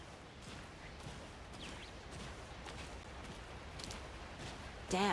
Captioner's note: birds chirping